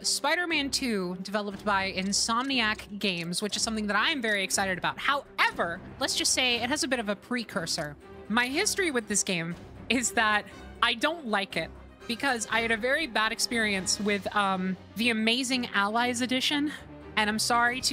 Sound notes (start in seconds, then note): none